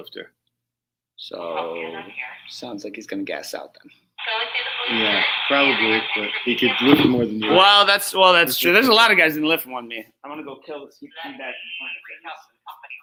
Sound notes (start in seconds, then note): 3.9 muffled voice on speaker in background